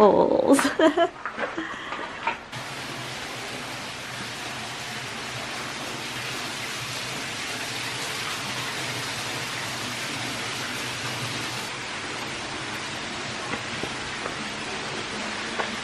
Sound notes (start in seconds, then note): 0.6 laughs; 2.5 water running